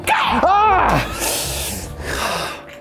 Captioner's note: screams